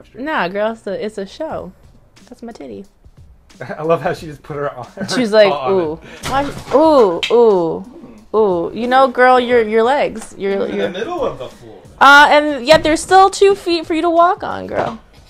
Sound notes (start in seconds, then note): 6.2 dropping noise